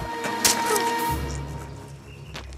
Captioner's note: swords clash; sword stabs; birds tweeting